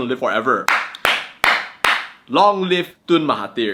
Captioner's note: claps